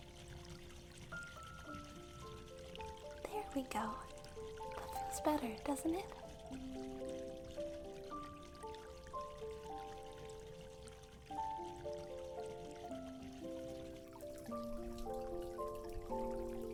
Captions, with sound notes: There we go. That feels better, doesn’t it? (water sounds continue)